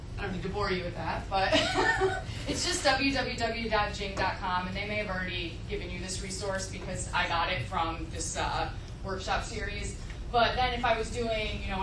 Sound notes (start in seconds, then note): 1.6 laughs